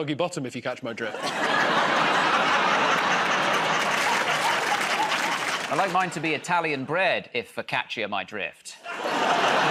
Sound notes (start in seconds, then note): 1.1 laughter; 4.4 applause; 8.8 laughter